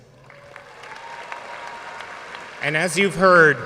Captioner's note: audience cheering and applauding